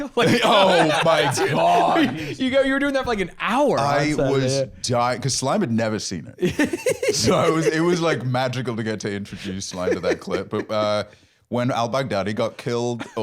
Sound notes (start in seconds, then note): 6.4 giggling